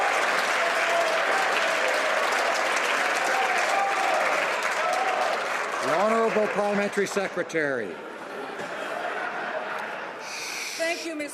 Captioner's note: applause